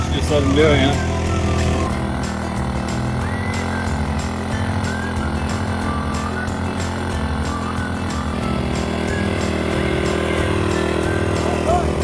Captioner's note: engine roaring; light whistling music